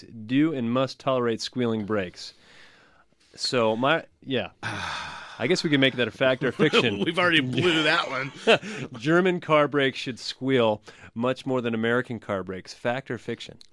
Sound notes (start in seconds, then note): 4.6 sighs; 5.6 laughs